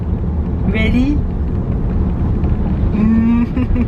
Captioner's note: laughing